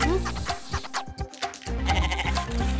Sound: bleating

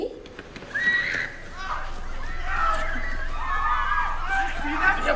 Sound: group screaming

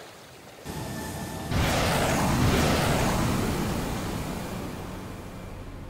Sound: thruster boosting

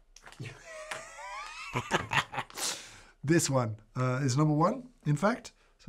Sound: laughs

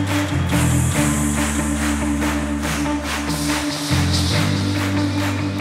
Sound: makes hissing noises

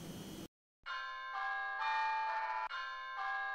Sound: cell phone rings

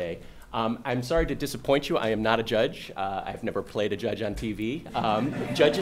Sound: laughter

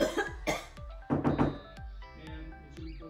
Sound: cough; knock

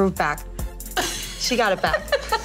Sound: laughing

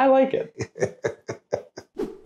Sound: laughter

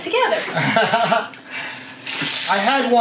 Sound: laughs

